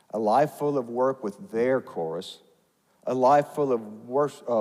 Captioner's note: none